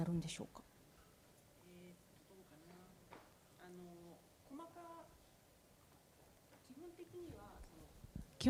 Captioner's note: speaking japanese